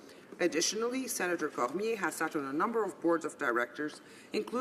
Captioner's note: speaking French